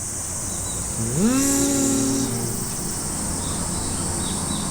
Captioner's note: buzzes